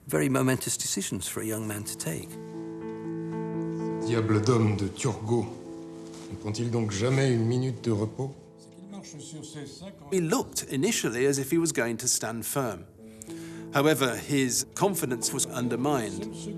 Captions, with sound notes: Very momentous decisions for a young man to take. (gentle music) (men speaking in French) - He looked initially as if he was going to stand firm. However, his confidence was undermined.